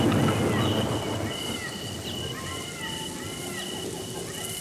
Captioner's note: thunder rumbling